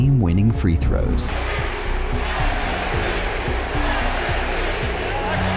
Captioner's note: MVP chants